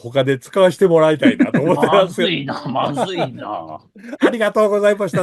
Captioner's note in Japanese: 笑い